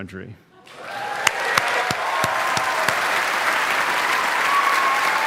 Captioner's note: audience applauding